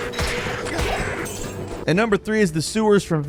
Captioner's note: monsters grunting; coins rattling